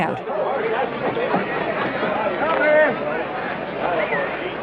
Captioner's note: crowd noise